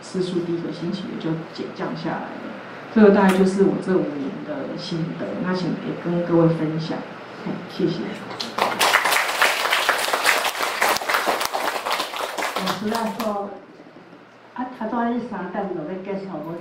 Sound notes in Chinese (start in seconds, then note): 8.4 眾人鼓掌